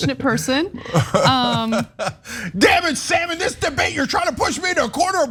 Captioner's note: laugh